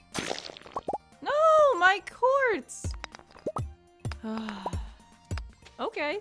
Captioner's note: sigh